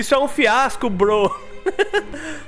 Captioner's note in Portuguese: Risos